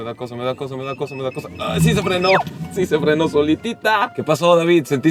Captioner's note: alarm beeping